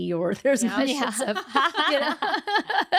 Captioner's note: laughing